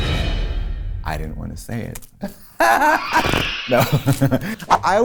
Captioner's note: laughs